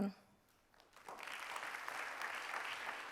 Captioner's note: applause